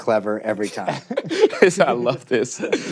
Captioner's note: laughter